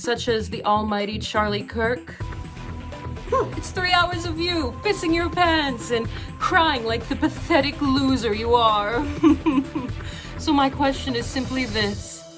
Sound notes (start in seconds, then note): 9.2 mock crying